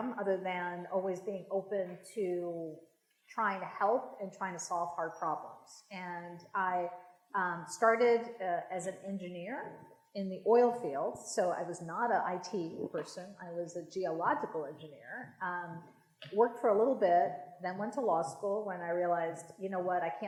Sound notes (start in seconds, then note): none